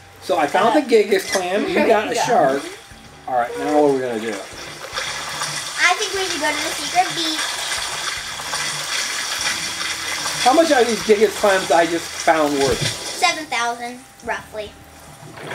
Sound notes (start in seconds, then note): 7.4 water splashing